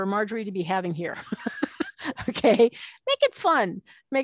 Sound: laughing

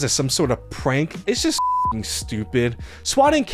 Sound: beep

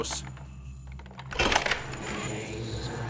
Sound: door unlocked

